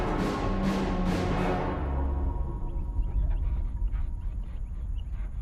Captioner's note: distant rumble dies away